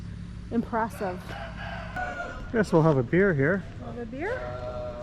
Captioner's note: rooster crowing